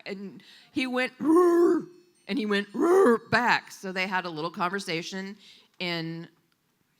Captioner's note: Wookiee roar